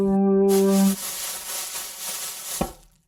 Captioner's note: zapping